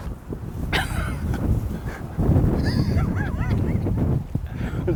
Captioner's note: laughs